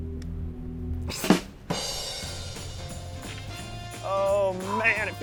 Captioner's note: laughs